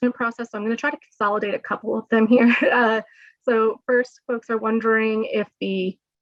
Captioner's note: laughter